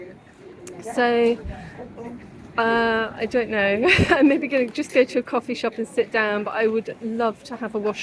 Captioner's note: laughs